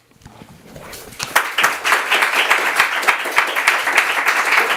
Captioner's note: audience applauds